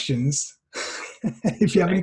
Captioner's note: laughter